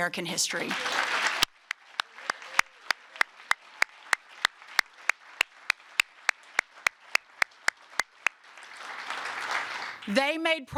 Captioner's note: applause